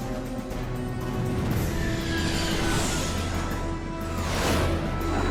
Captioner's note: engines whining